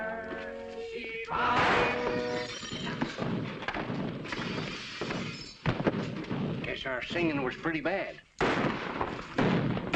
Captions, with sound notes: [ GUNSHOT ] [ GLASS SHATTERING ] I guess our singing was pretty bad. [ FIRING ]